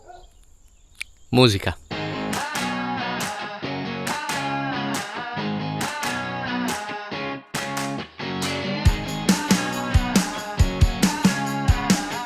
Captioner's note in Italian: Applauso